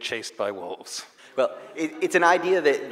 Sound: audience laughing

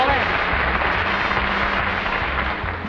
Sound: audience applauds

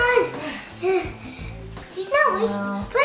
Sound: struggling

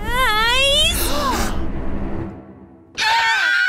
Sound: gasps; screaming

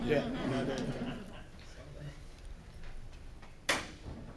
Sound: laughing

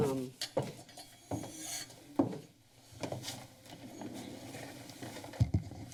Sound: foot steps

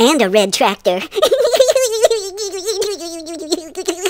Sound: giggling

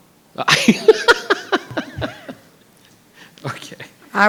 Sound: laughs

